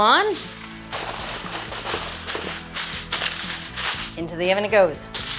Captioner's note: foil rustling; upbeat pop-rock music